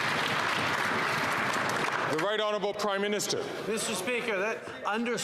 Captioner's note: some Applause